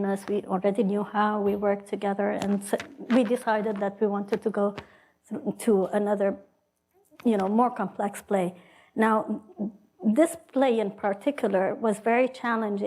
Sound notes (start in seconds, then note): none